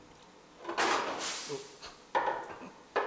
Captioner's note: short hissing